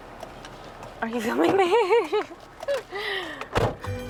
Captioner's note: laughing